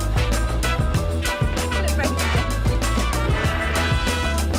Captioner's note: laughing